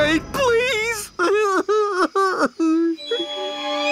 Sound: crying

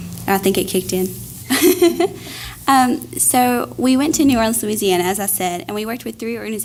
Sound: laugh

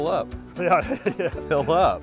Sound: laughs

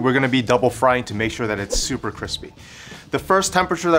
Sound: air whooshing

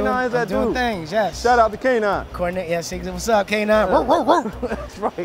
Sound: woofs

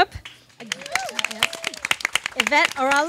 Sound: audience claps and cheers

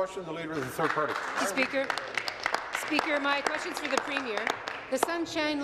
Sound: applause

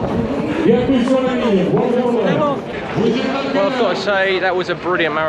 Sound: announcements in French on speaker

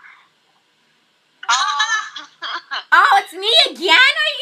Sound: laughs

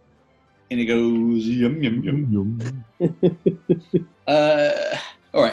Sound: chuckling

